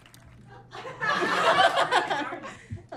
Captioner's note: audience laughs; blurts laugh